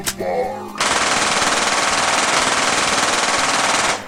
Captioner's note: gunshots